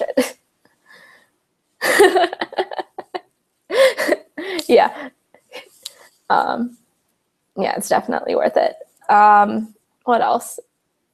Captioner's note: laughs